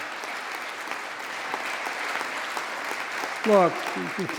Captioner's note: applause